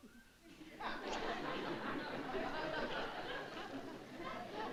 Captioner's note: laughter